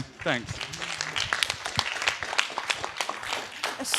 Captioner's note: applause